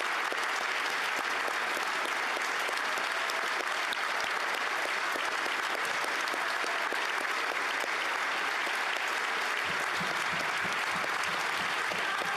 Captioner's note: applause